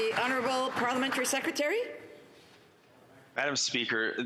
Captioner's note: some Applause